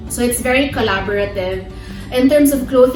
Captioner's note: none